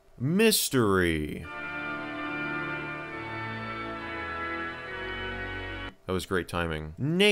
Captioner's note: perfectly timed but unintentional spook sound